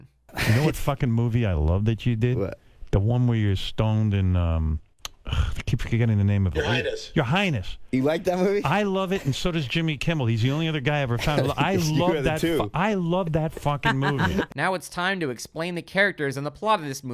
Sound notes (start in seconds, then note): 6.6 scoffs